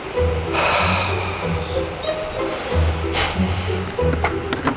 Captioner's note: dramatic breathing